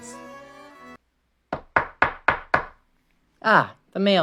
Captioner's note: knocking interrupts the music